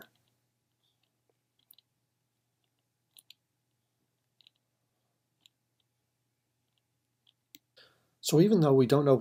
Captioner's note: typing